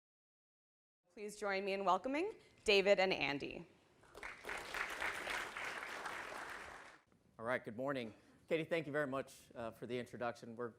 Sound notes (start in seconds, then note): 4.1 audience applauding